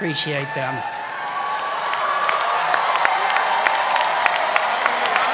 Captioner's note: cheers